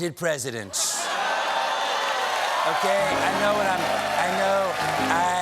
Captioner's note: cheers and applause